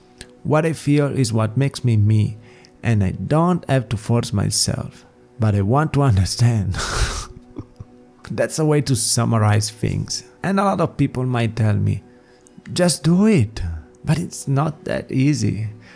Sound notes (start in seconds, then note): 6.8 laughs